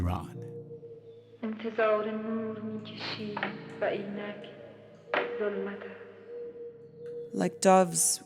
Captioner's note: soundbite of film, "the house is black"